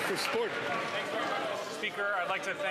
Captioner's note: some Applause